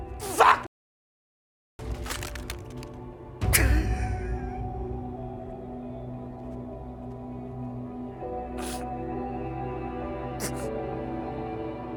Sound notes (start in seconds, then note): 4.0 Nathan crying; 4.0 dramatic music